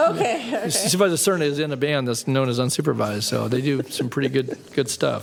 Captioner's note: laughter